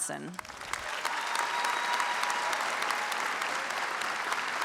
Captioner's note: audience applauds